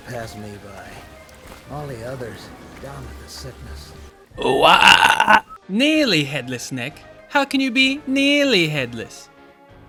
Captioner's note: disturbed scream